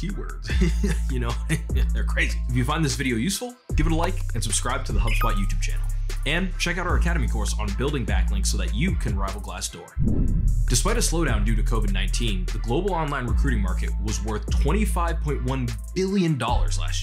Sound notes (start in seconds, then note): 0.5 laughs; 10.0 swish